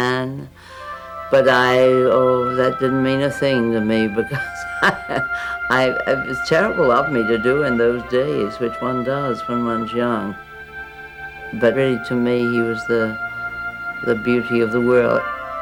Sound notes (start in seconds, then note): 3.9 laughing